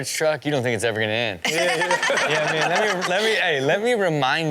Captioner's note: crowd laughs